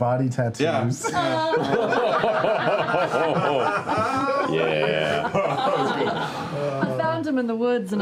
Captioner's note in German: Gelächter